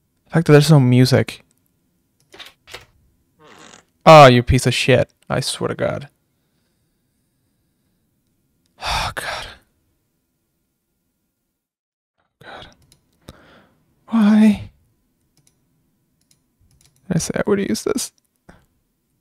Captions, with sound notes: there's no music. (door creaks open) Oh, you piece of shit. I swear to God. Oh God. Why? I already used this.